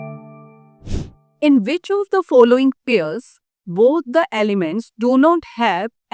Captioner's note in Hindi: नाक से की जाने वाली आवाज़